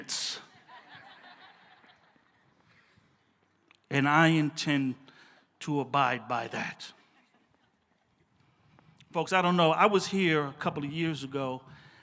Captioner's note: laughs